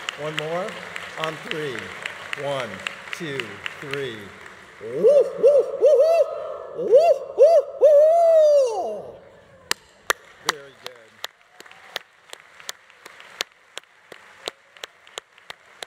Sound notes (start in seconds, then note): 0.0 audience applauding; 4.6 students and faculty hooting; 9.6 audience applauding; 11.8 audience applause continues